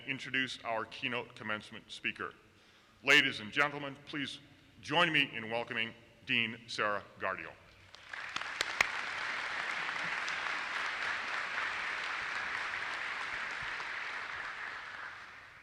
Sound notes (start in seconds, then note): 7.9 audience applauses